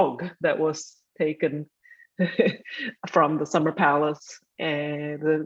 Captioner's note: chuckling